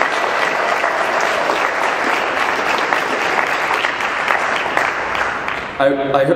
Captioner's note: clapping